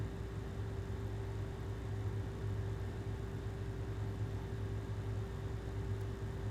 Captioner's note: air conditioner humming continues